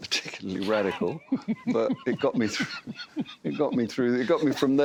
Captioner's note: all laughing